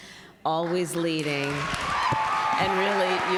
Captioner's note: applause